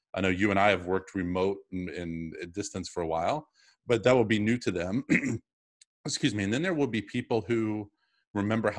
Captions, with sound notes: I know you and I have worked remote and distance for a while, but that will be new to them. (clears throat) Excuse me. And then there will be people who remember